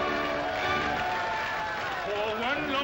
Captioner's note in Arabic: موسيقى مرحة; هتاف وتصفيق; غناء